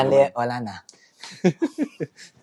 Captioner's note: laughter